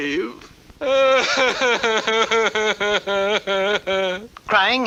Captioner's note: King Cup cries hard